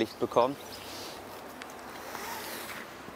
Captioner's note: rope noises